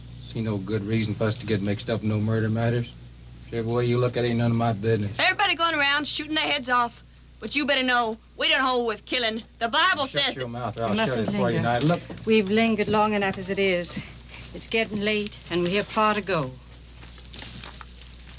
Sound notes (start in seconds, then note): none